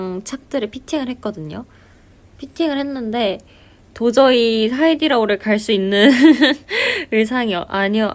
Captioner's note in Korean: 웃음